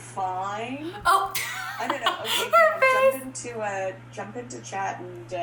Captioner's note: laughs